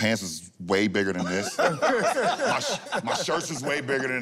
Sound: laughter

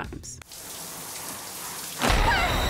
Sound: shower running; woman screams

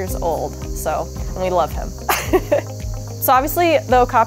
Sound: laughs

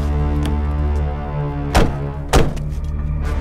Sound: door close

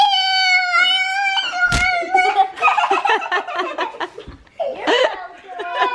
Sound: laughing

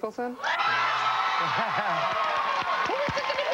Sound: cheers and applause

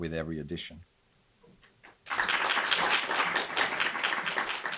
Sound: clapping

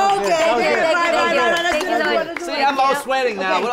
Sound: group exclaiming

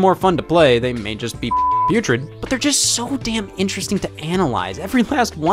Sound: beep

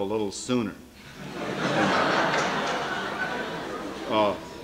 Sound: laughter

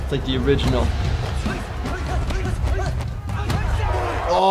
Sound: loud grunting

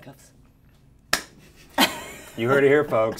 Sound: hand clap

